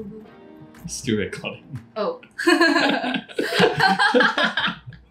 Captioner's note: laughs